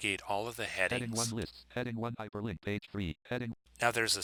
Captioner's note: synthesized speech